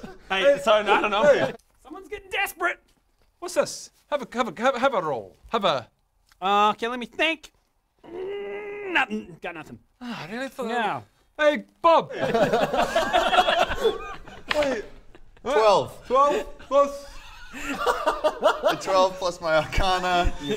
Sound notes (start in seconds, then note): 12.5 laughs